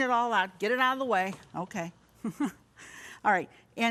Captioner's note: chuckles